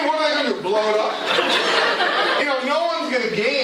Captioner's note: laughter